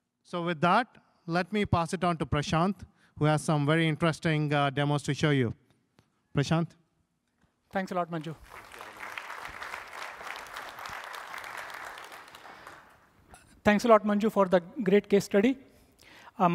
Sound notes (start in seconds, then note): 7.8 applause